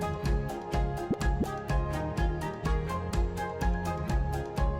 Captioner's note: logo whooshing